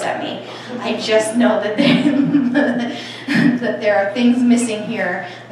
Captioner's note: laughter